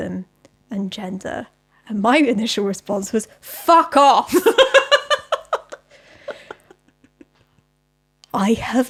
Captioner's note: laughs